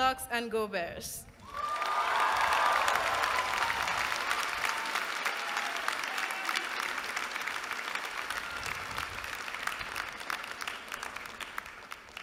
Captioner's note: applause